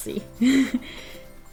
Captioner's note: laughs